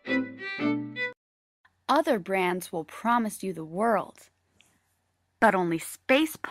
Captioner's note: background channel surfing sounds; TV audio